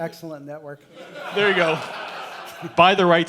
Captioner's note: crowd laughter